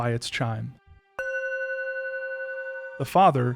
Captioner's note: clock chiming